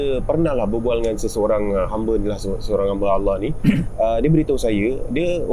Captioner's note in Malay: berdeham